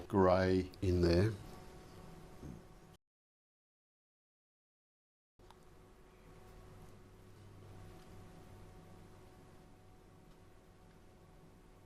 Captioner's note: silence